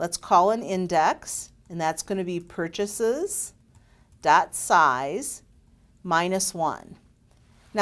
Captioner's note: typing